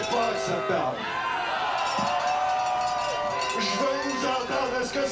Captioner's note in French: cris de la foule